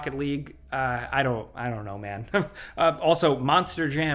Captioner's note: chuckles